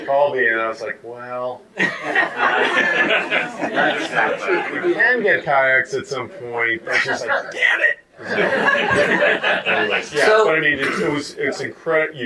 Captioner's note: audience laughter